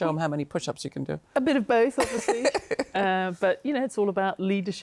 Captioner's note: laughs